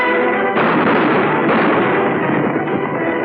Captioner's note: gunshots